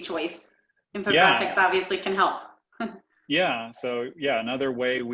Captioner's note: chuckles